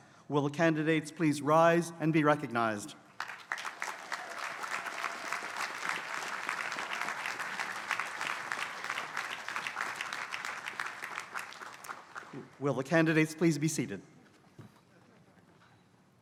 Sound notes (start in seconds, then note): 3.1 applause